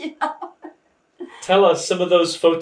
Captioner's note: laughing